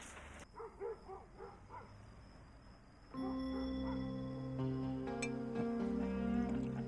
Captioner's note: dogs bark; soft music